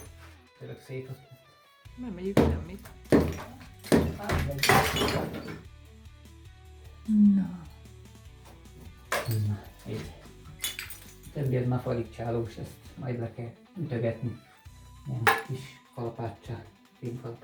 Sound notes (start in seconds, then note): 4.0 clang